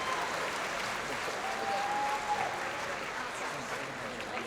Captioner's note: crowd cheering